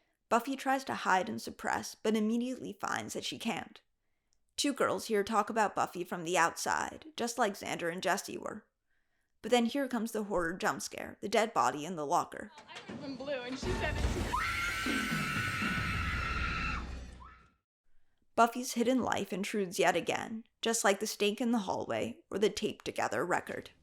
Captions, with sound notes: Buffy tries to hide and suppress, and then immediately finds that she can't. Two girls here talk about Buffy from the outside, just like Xander and Jesse were. But then here comes the horror jumpscare, the dead body in the locker. I heard from Blue, and she said [screaming] Buffy's hidden life intrudes yet again. Just like the stake in the hallway, or the taped together record.